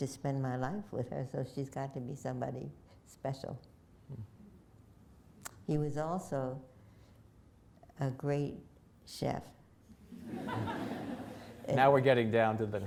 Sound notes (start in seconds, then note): 10.0 laughter